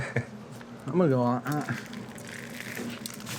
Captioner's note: laughs; crunchy sound